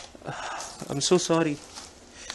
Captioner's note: sob